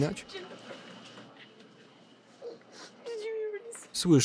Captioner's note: crying